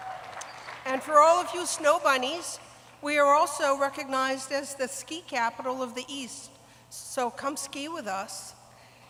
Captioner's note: applause